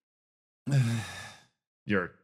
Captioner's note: Gartrinus Sigh